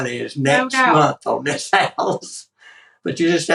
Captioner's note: laugh